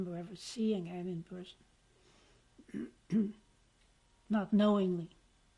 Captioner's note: pauses for 3 seconds